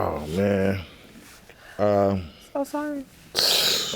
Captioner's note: groans